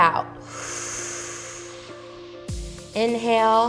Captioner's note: exhales